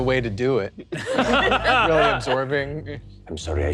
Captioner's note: all laughing